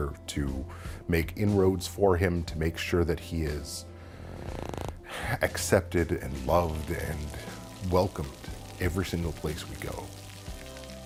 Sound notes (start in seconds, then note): none